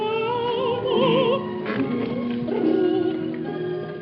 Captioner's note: flipping through the book